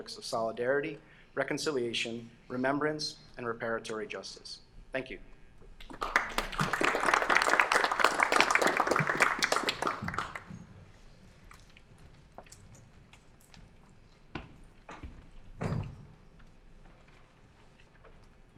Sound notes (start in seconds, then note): 5.8 applause